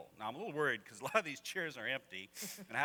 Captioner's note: laughs; laughter